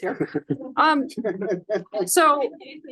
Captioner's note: laughter